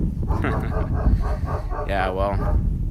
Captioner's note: dogs barking